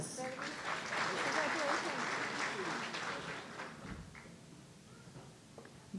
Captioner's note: audience applauding